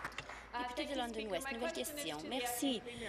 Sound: applause

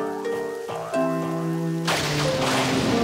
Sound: thunder

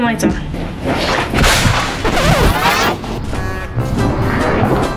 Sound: crashing; videotape rewinding

